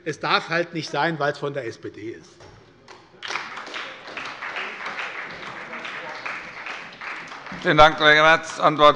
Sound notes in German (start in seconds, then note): 3.2 Beifall bei der SPD